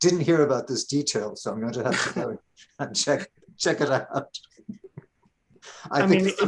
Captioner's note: chuckling